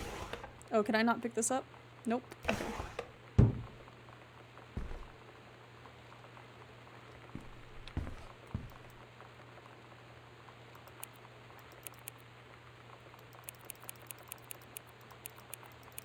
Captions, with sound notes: Oh, can I not pick this up? Nope. Okay. [Loud Thunk]